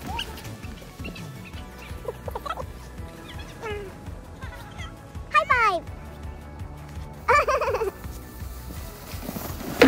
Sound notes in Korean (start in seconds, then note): 4.3 웃음; 7.2 웃음